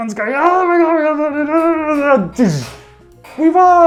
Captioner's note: yelling